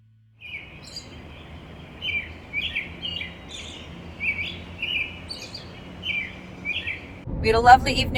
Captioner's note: birds chirping